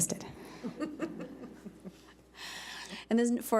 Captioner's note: chuckling